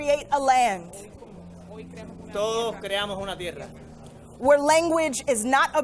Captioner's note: and interpreter speaking in foreign language